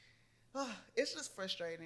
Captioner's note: sighs